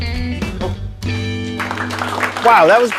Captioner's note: applause